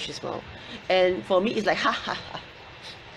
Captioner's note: laughs